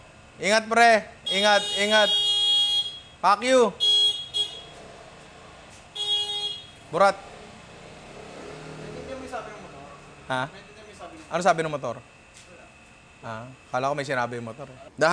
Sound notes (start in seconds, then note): 3.8 hooonks; 5.9 honks